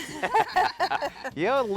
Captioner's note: laughter